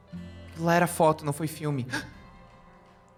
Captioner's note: regret sounds